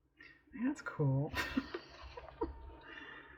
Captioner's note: laughs